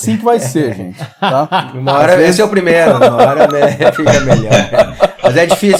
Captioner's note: laughs